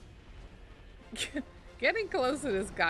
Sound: laugh

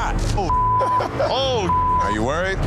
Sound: laughing

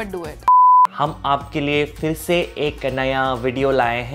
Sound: speaks Hindi

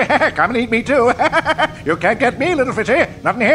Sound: crazed chuckle

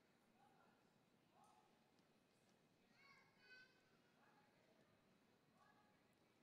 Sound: color guard captain shouting

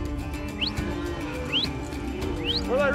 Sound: whistling

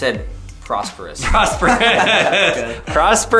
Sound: laughs

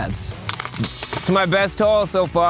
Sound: basket chiming

